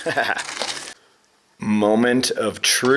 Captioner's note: laughs